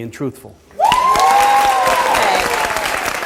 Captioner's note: audience applauds